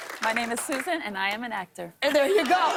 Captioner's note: laughter